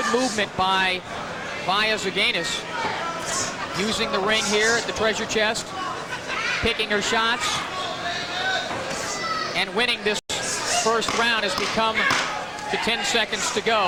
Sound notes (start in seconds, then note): 9.4 knock, knock, knock